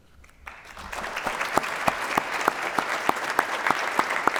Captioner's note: applause